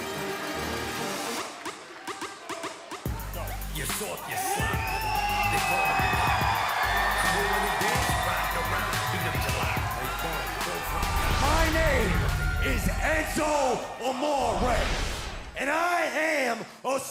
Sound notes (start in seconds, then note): 7.4 cheers & applause